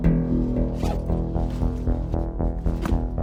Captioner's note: bag unzips